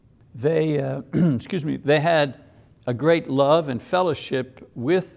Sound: clears throat

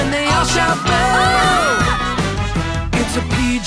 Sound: yelling

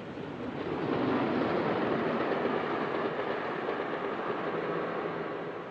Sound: train engine rumbles

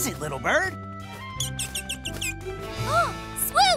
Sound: chirping

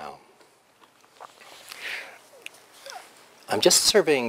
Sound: pause

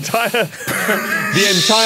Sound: wheeze

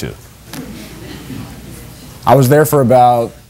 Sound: spectators murmur

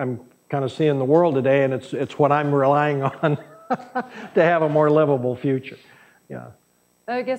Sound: laughs

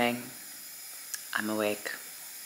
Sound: air hissing

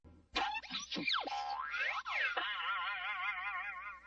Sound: cartoon sounds

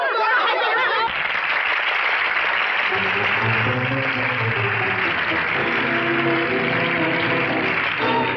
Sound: applauding

